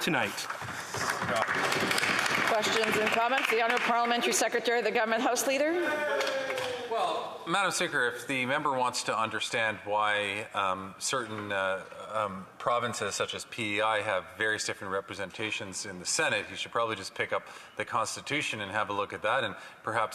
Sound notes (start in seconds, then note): 6.2 applause